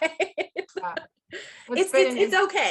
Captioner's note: laughing